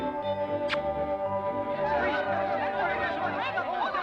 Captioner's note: kissing smack